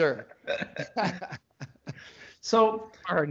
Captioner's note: both laugh